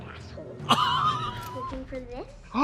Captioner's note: Katya laughs